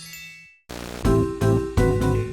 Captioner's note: static buzzing; upbeat music